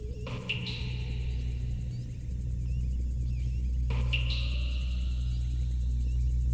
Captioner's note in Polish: Dudnienie cichnie; Elektroniczne odgłosy kapania; Ciągłe, niskie buczenie